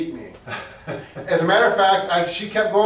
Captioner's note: laughs